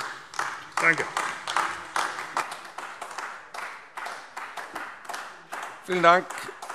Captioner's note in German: Beifall AfD